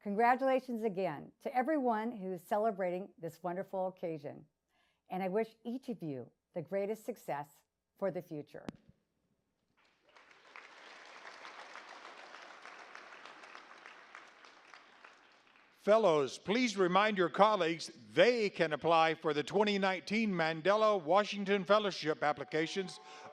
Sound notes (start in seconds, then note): 9.8 audience applauds